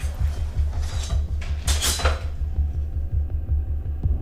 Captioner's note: metal clinking